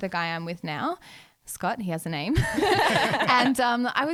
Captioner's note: laughing together